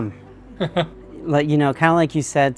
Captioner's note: chuckles